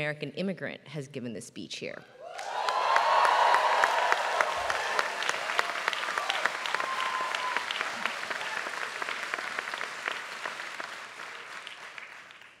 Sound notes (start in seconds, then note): 2.3 applause